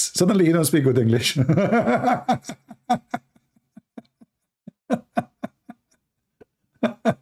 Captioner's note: Ketawa